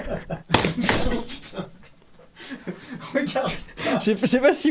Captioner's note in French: Un objet tombe